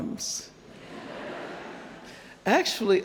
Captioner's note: audience laughing